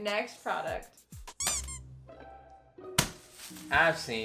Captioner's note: squeaks